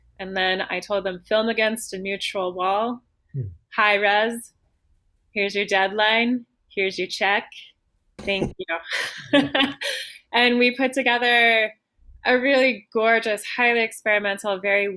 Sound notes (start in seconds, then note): 8.9 laughter